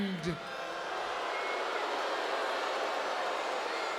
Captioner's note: crowd booing